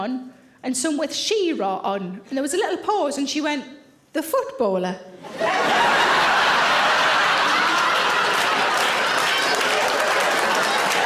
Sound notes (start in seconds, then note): 5.2 audience laughing; 7.6 audience applauding